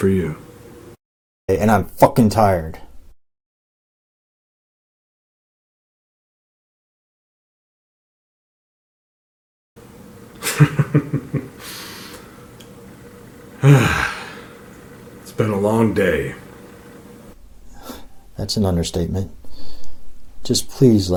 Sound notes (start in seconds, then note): 3.4 silence; 10.3 laughs; 13.5 sighs